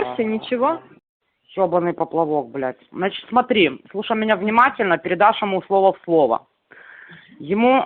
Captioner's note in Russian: говорят по-русски